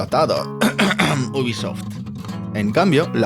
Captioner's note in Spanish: ejem ejem